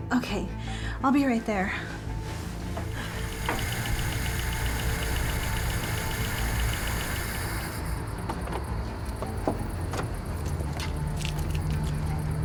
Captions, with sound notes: Okay, I'll be right there. (engine whirring) (suspenseful music)